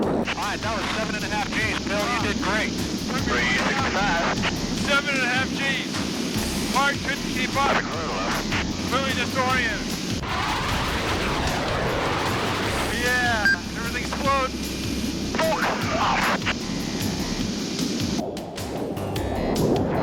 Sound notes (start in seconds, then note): 14.9 static on radio